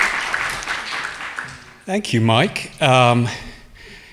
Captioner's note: audience applauding